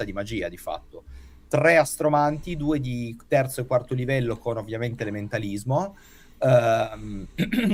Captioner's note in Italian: schiarire la voce